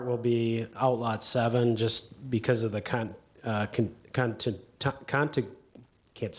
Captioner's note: stutters